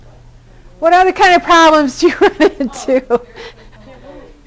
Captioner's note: laughter